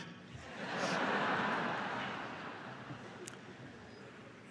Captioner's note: laughter